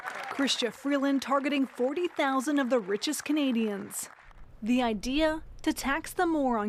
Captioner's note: applause